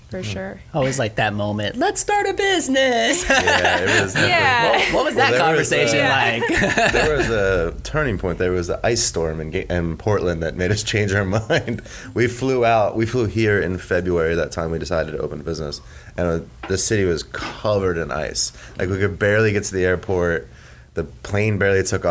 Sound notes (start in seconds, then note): 3.2 laughs; 11.5 chuckles